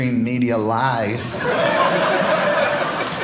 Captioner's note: audience laughing